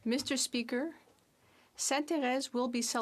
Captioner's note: speaking French